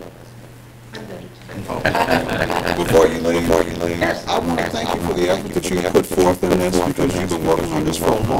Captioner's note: laughter